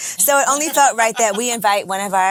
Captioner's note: women laughing